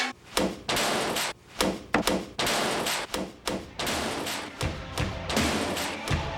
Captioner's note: clanging to the rhythm